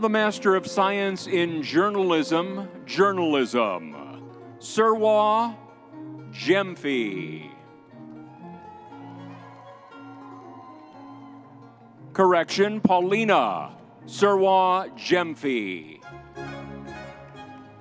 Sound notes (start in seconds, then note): 7.7 crowd cheering